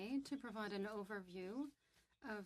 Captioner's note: speaking French